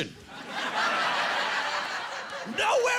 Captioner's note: laughing